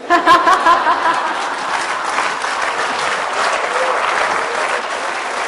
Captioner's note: laughter/Applause